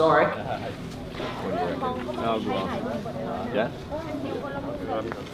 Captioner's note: people chatter